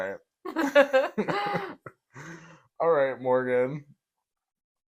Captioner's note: laugh